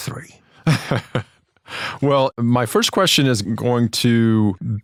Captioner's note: laugh